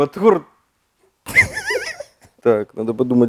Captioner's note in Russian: смеётся